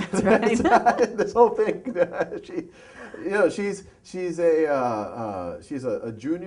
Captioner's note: laughter